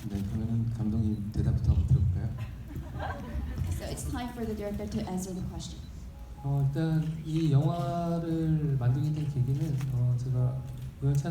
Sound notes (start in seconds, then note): 0.2 speaking in foreign language; 2.3 audience laughing; 6.7 speaking in foreign language